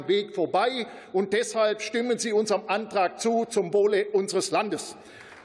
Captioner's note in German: Beifall